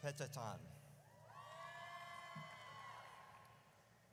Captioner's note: audience cheers